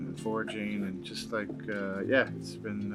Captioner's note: member of group clapping